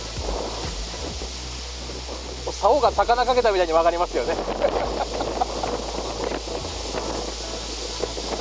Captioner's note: A storm-like wind is blowing